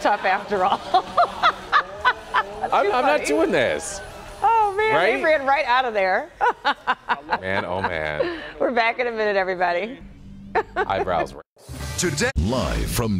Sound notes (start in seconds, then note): 2.1 laughter